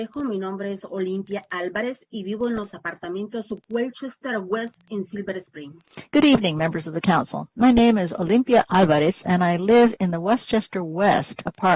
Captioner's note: speaking spanish